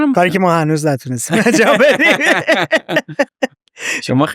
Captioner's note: laughs